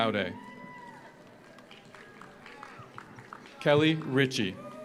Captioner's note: audience cheers; audience applauds